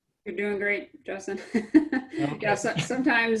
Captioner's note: laughs